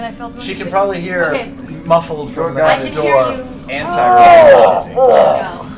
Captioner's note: grunts